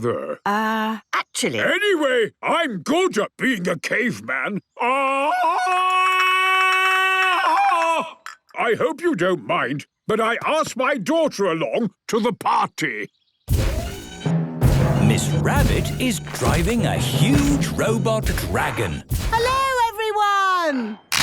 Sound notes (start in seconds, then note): 4.8 Tarzan call; 13.1 thudding, mechanical whirring